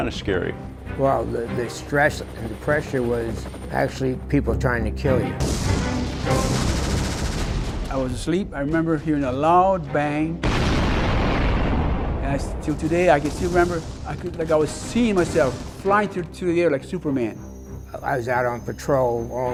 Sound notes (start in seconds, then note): 6.9 sounds of war; 12.0 sound of an explosion